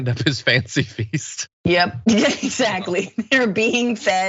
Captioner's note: laugh